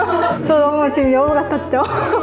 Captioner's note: laugh